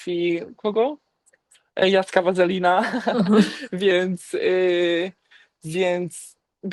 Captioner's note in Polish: śmiech